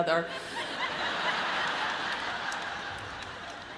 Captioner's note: audience laughs